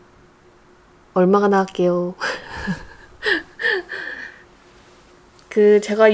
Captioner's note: laughs